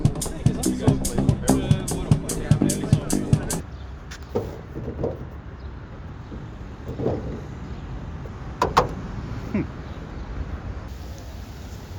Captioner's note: door Opens